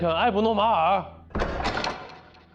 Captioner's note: door opening